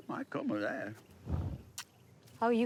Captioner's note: Bobby spitting